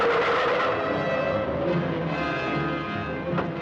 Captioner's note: tires screech